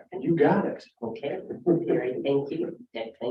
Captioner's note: laughs